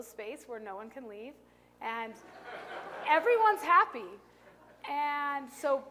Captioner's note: laughter